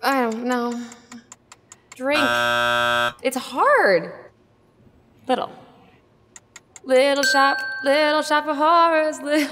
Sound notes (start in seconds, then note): 2.1 buzzer rings